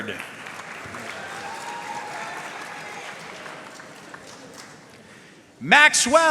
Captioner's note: audience cheering and applauding